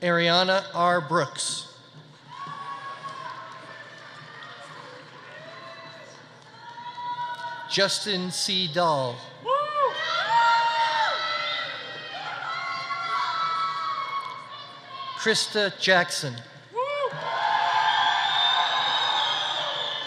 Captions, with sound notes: Ariana R. Brooks. (audience applauding) (audience cheering) Justin C. Dahl. (audience cheering) Christa Jackson. (audience cheering)